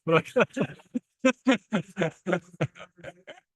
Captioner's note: laughs